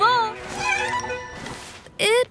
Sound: kitten meows

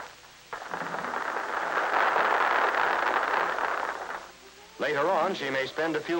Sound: applause

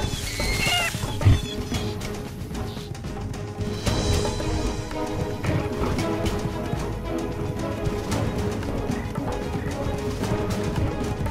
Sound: Daeodon panting

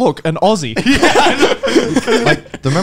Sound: men laughing

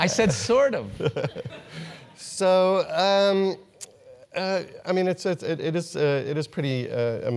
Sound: laugh

